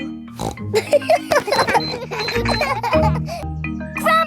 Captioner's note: snorts; kids laughing